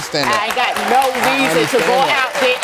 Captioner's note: audience applauds